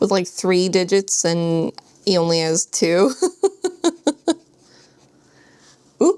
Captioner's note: laughs